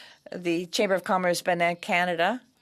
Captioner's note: speaking French